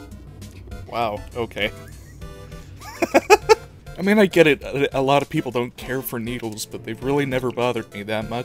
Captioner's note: wheeze